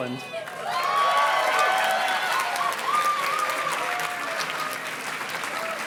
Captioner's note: audience cheers and claps